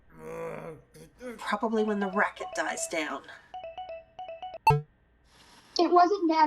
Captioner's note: Argan groans upstairs